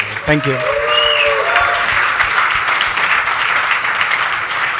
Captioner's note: audience cheers